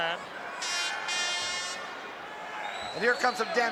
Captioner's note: buzzer beeping